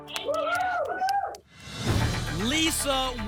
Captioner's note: cheering